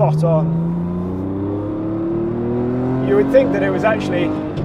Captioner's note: car engine revving